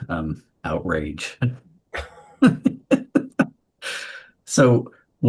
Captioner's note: group laughs